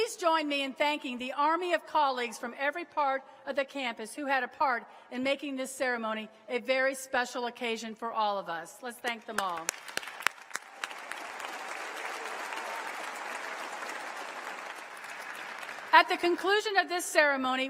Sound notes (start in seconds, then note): 11.9 applause